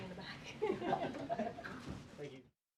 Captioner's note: laughter